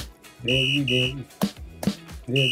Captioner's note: beep x2